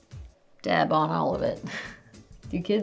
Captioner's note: chuckles